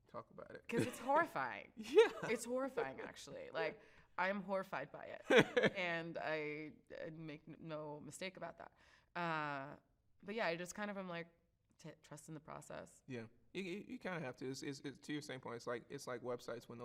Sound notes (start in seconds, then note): 5.2 laughs